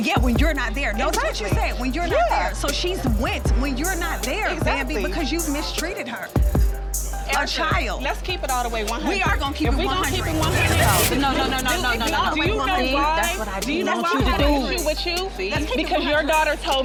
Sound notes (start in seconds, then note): 0.6 dramatic hip-hop music; 8.8 dramatic hip-hop music; 12.0 people speaking indistinct